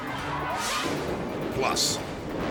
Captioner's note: air whooshes